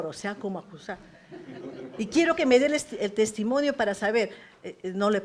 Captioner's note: risas